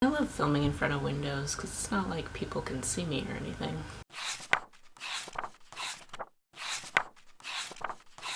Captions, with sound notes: I love filming in front of windows, cuz it's not like people can see me or anything. [pages turning]